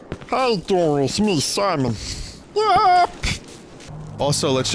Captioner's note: guttural voice